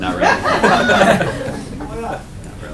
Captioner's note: laughter